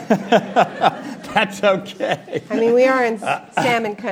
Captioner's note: laughs